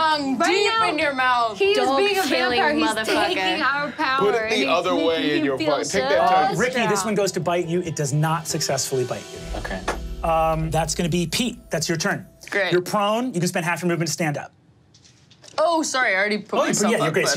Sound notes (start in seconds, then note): none